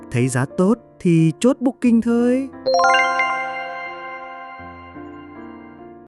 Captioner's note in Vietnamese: chuông